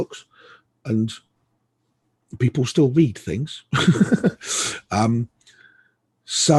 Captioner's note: laughs